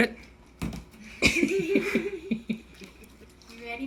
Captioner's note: laughing